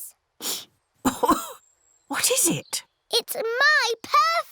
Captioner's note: sniffs and coughs